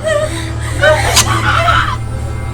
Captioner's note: screaming